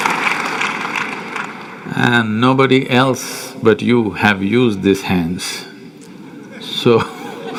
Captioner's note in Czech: smích